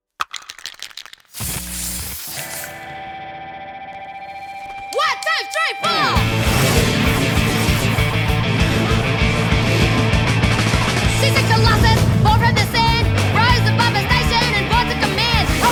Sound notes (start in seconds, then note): 0.3 paint spraying; 3.0 punk rock music; 6.2 engines revving